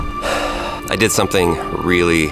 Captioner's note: eerie music; sighs